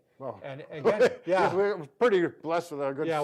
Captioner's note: laughing